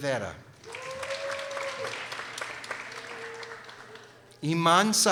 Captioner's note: people applauding